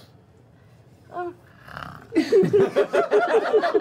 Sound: snores; laughter

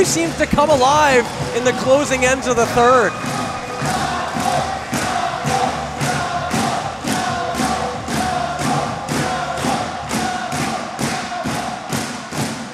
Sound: cheering in the background

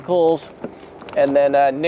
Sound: equipment rattling and clattering

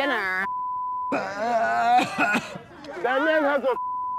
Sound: beep; beep

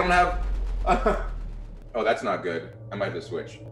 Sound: laugh

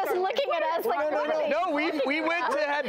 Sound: laughs

